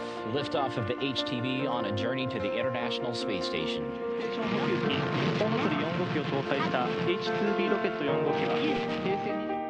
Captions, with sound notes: Liftoff of the HTV on a journey to the international space station. [Rocket launching]